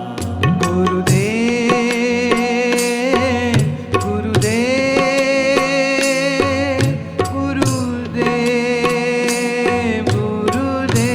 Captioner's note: chanting